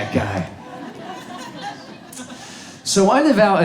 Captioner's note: audience laughs